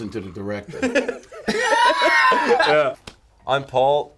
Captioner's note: both laughing